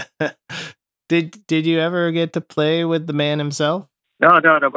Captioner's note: laughter